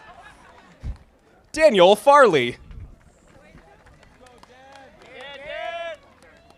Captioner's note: audience applauding